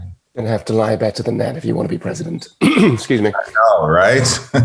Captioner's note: coughing